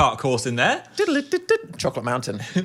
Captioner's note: Dan vocalizing